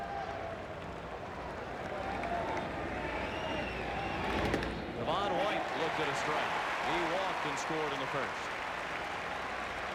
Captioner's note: applause; cheering and Applause